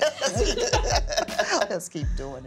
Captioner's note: laughing